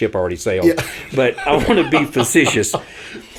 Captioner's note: chuckles